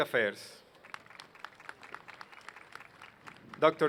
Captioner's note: applause